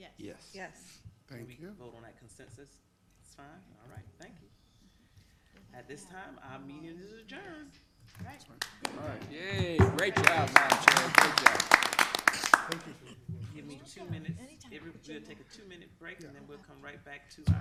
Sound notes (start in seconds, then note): 8.5 hands clapping; 11.9 people clapping